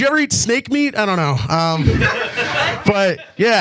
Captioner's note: audience laughs